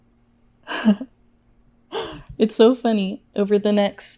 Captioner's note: laughs